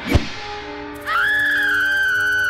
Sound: screams

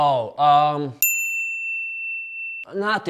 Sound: bell rings

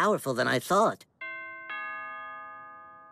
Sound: ding dong

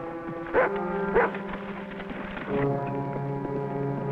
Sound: barks

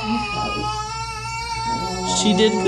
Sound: baby cries in pain

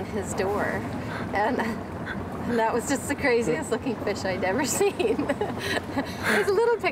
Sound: laughs

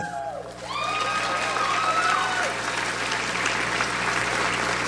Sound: audience applauds

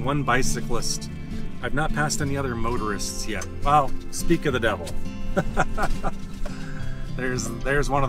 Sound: laughter

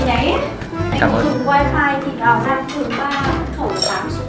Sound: chatting

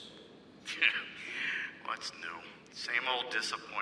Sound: scoffs

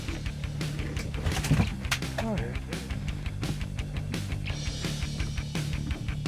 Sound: fish flopping

